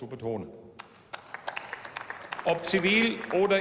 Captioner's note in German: Beifall